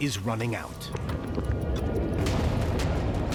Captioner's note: clock ticking